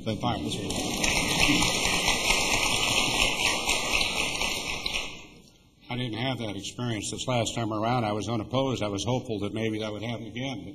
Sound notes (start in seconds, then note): 3.0 applause